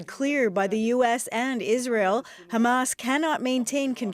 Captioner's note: speaking alternate language